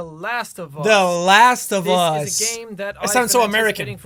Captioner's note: mocking